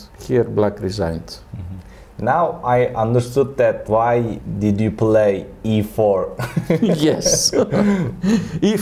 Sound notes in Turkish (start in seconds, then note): 5.9 gülerek; 6.4 Karşılıklı gülüşmeler